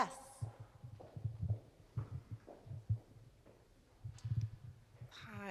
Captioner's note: faint footsteps thumping